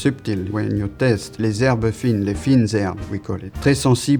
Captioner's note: speaks French